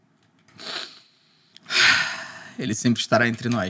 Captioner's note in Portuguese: suspira